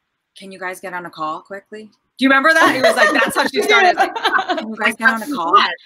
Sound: laughter

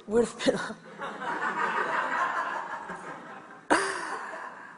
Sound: audience laughs

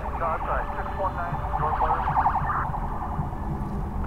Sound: distant police sirens

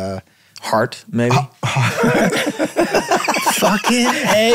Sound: all laughing

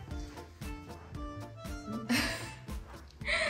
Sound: laughs

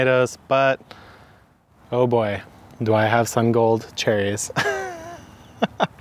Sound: chuckles

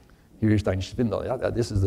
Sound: speaking german

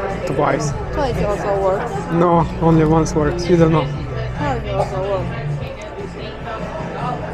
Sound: chatting

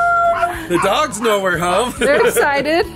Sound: laughs

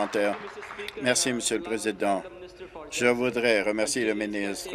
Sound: applause

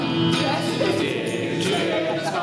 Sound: laughter

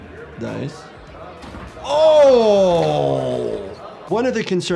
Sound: crowd chatters; body thuds

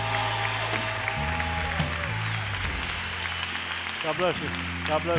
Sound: applause

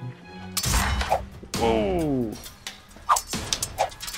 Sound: drawn out sword sounds; sword sound effects

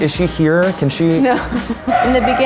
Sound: laughing

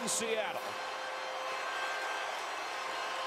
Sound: siren

